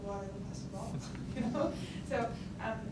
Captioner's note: audience chuckles